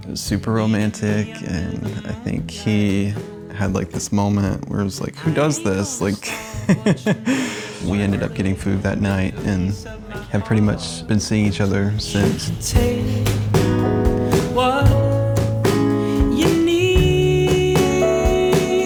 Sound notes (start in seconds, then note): 0.0 smooth rhythmic music; 6.0 chuckles